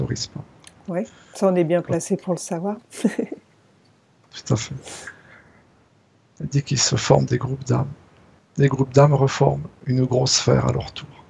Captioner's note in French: rires